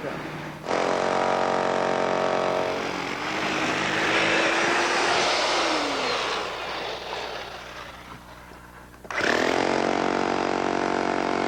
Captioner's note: drilling